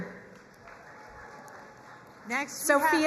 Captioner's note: crowd cheering and applauding